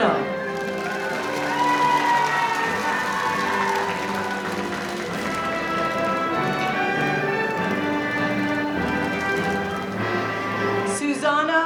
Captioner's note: applause